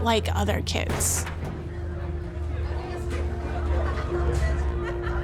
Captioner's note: people chattering